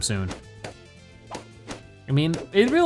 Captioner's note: balloons popping